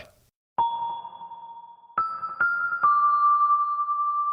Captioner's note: bells chiming